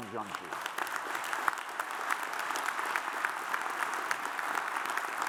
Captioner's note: audience applauds